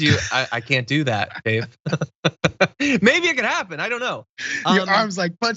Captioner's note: laugh